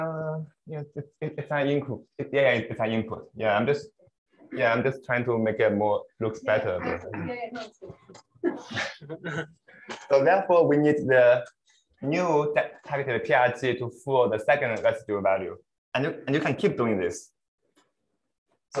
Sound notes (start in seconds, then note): 8.4 laughter